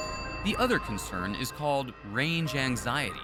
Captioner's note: bell rings